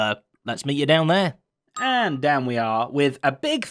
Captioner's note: ding